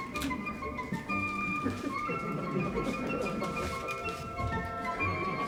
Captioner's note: laughter